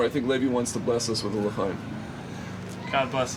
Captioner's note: speaks in foreign language